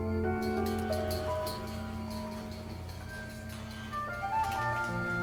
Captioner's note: metal clanking